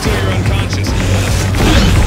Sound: wolverine growls

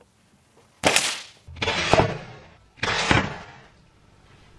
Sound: loud snapping

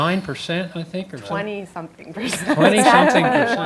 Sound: laugh

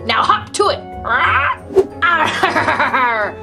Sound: squawks

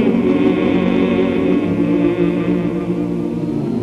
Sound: humming

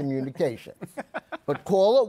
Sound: laughter

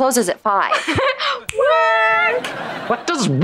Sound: chuckles

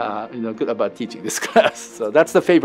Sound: laughs

